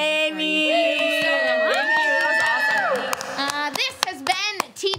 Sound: cheering and clapping

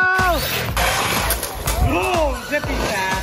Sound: engines start humming

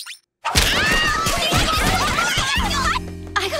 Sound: all screaming

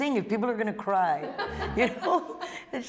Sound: laughter

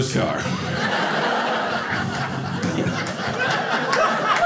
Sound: audience laughing

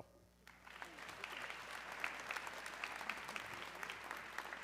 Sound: audience clapping

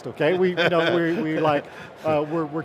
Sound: laughs

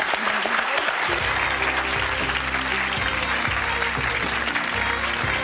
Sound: audience applauding; upbeat music

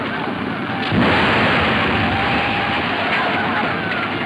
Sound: explosion booms

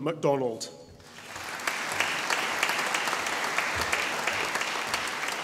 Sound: audience applauding

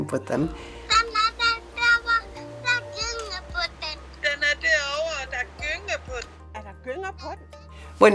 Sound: in Danish

